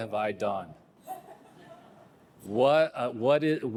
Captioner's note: audience laughing